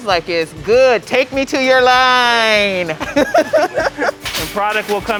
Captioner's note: laughs